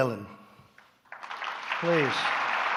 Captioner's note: applause